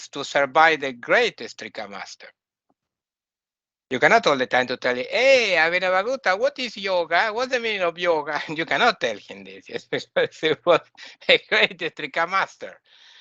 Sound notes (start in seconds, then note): 8.3 laughing